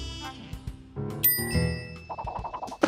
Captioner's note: bell dings